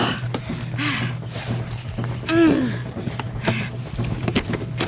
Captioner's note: sighs; grunts